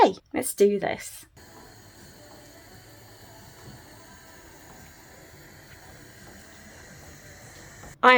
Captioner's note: sound of the hob, the spoon against the pan and the food bubbling